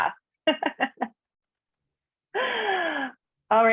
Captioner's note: laughing